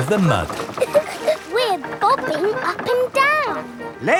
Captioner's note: chuckles